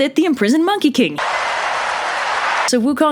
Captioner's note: cheering crowd